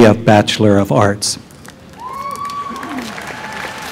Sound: cheering

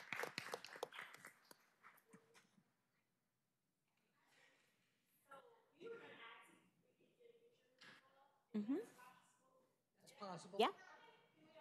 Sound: applause

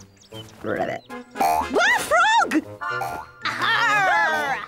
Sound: croaks

